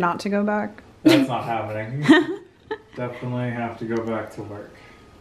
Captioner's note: laughs